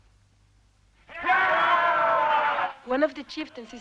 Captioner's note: chieftains cheering